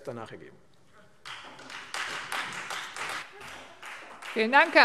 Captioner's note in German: Beifall Freie Demokraten und vereinzelt SPD